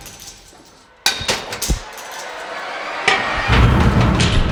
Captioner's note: wrench breaking